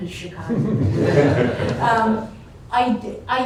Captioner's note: laughter